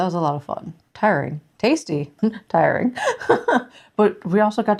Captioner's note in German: lacht